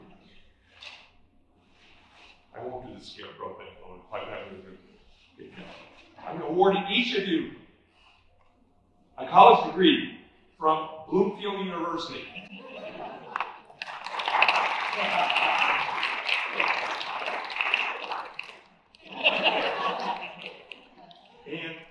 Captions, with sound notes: I won't do the Scarecrow bit, "If I only had a brain"-- I'm awarding each of you a college degree from Bloomfield University. [Laughter/applause] [Laughter]